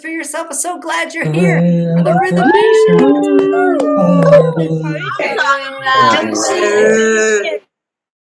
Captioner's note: cheering